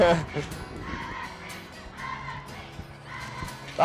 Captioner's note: crowd chanting